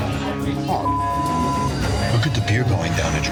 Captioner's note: beep